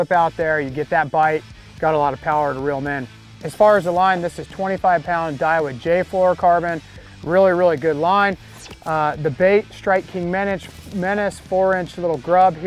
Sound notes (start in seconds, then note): 8.5 laser whooshes